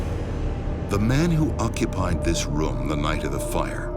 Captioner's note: voiceover